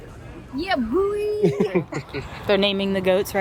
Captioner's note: both laugh